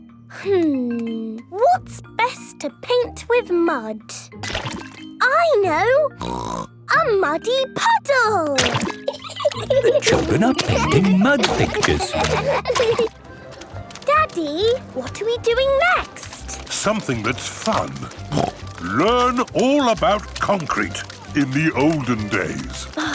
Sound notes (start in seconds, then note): 8.8 laughing